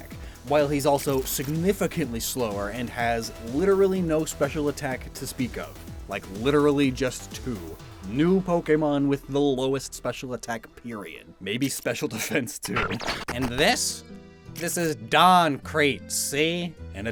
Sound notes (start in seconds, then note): 12.6 glitch SFX; 13.4 terrible fake New Yorker accent; 16.8 normal voice